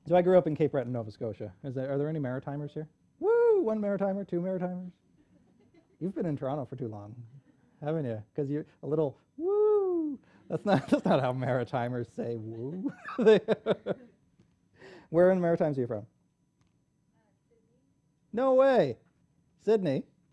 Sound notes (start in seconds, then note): 12.4 laughter